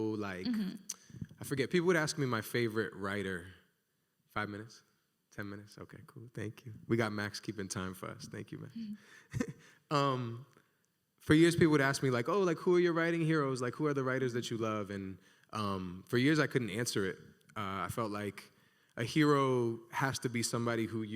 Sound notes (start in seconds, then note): 10.6 laughs